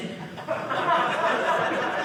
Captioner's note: audience laughing